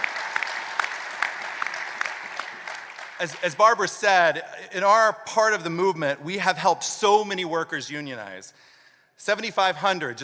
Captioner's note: applause